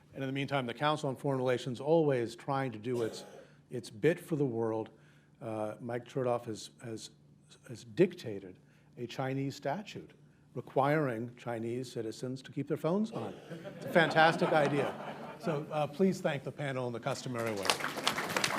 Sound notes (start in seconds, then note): 15.2 laughter; 17.2 applause